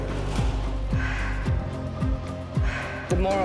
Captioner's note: exhales sharply